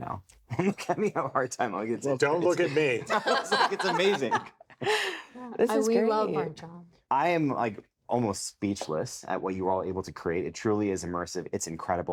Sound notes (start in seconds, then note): 2.6 laughs